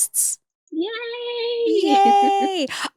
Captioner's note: laughs